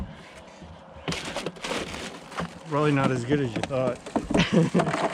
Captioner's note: fish thrashing